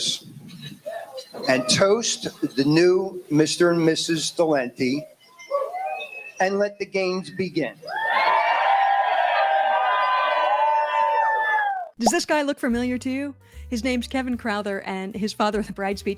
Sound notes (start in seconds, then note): 7.9 cheering & applause